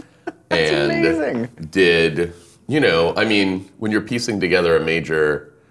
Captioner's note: laughing